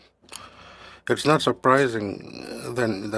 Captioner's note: speaking French